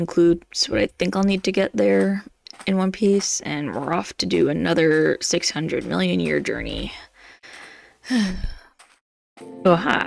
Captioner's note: sigh